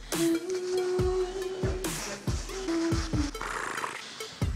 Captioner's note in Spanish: hums